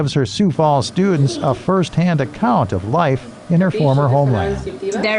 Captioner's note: laughter